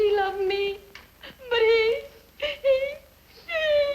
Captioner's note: crying